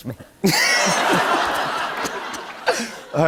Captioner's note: laughter